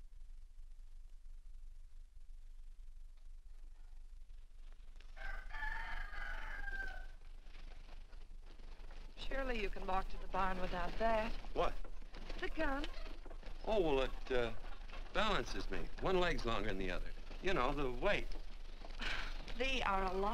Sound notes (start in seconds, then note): 5.1 rooster Crows